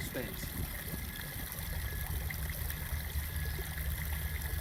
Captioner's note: water trickling